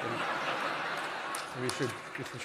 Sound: laughter

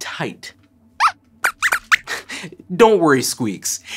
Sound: squeaks squeaks

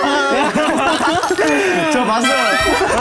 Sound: haha

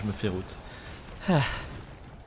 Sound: sigh

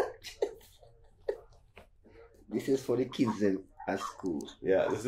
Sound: laughing

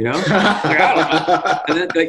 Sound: laughs

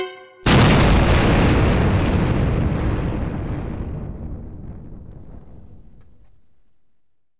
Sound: loud explosion

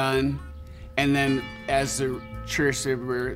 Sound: church bells ring

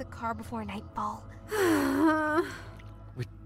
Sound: sighs

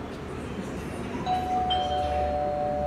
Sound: doorbell rings

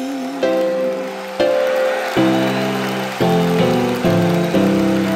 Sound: crowd cheering

